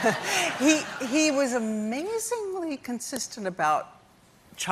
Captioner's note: laughter